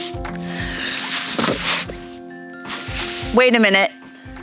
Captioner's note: plastic thuds